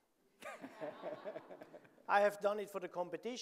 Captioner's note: audience laughing